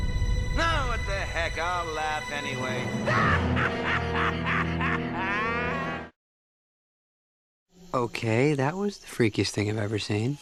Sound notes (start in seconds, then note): 3.0 laughs